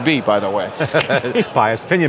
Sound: guys laughing

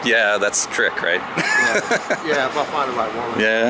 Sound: laughs

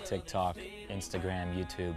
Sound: in spanish

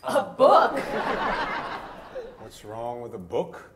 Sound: audience laughs

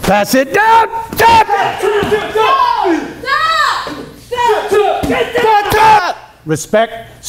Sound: kee-yahs

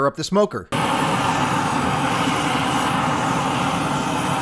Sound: torch blasting

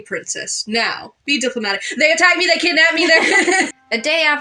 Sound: both Laugh

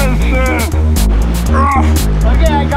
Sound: grunts

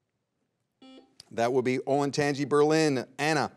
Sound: buzzer beeps once

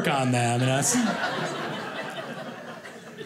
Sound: audience laughing

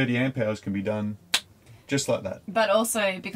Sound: clicks fingers

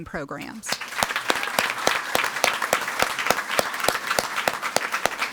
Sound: audience applauding

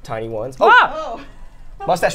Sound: screams

